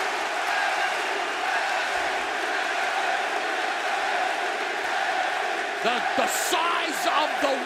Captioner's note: cheers and applause; fans chanting